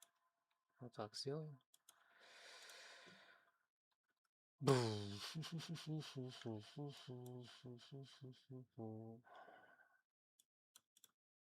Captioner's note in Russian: вздыхает